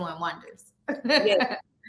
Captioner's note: chuckles